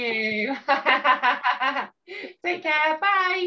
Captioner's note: chuckles